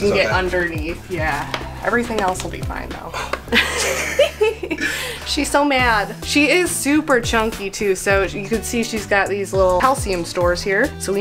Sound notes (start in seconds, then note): 3.5 chuckles